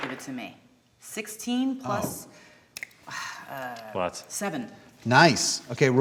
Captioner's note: die clacking